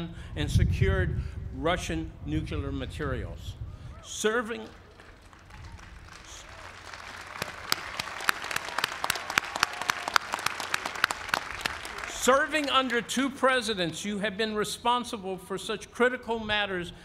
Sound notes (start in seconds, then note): 4.6 applause